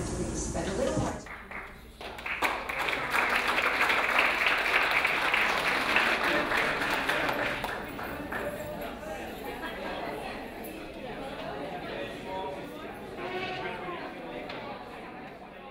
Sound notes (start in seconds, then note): 1.2 clapping; 6.9 laughing and milling